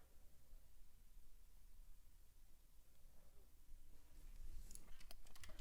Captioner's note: keyboard keys clacking